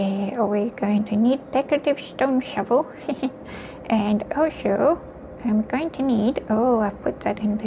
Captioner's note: chuckles